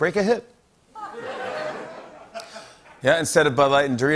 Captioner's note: laughter